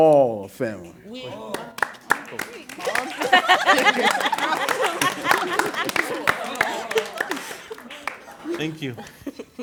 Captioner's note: "we are" applause, laughter